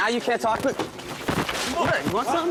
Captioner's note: scuffling